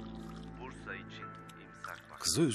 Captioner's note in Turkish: Radyo sesi